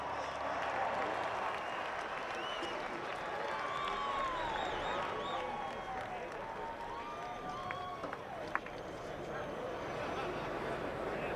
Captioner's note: cheers & applause